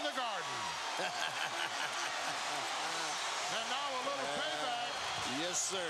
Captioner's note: laugh